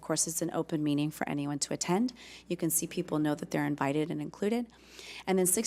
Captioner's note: none